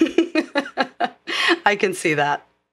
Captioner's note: laugh